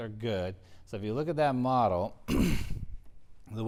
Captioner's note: cough